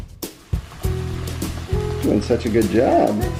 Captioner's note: food sizzling